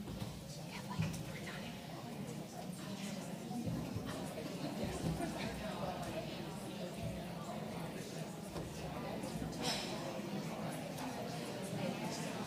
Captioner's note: background chatter